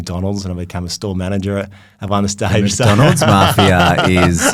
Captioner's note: laughs